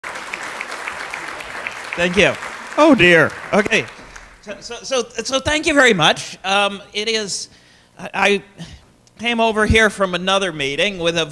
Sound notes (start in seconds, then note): 0.0 applause